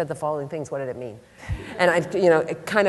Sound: laughter

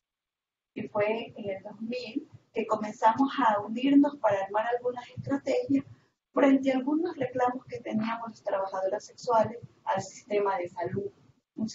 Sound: Spanish

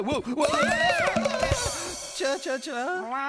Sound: alarmed Meow

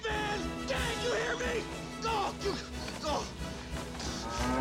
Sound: grunting

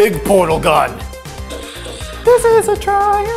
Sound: gun buzzes

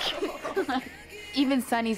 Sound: laughs

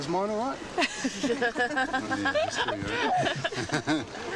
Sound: laughs

